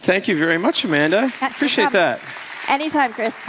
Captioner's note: applause